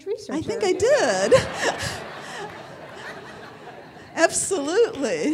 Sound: audience laughing

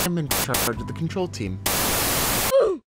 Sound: static crackling

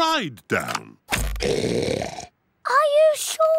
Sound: oinks loudly

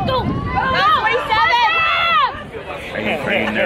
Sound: crowd yelling

